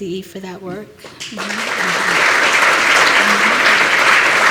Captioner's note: applause